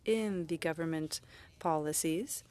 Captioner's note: speaking French